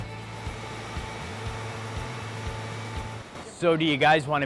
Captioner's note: machine engine purring